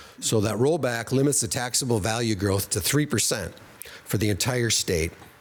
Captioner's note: none